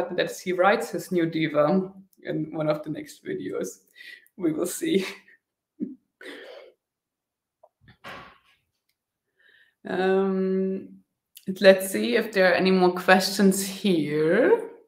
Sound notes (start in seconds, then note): 5.8 chuckling